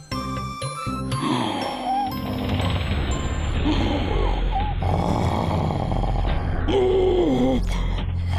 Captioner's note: snoring